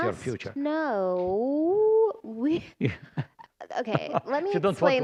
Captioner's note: laughter